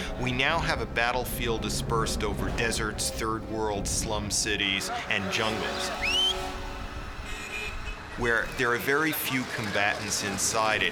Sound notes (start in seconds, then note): 5.9 man whistles